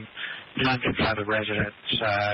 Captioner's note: radio chatter